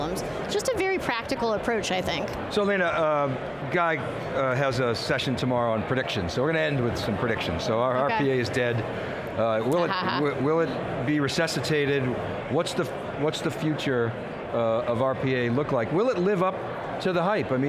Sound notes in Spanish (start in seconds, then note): 9.8 risas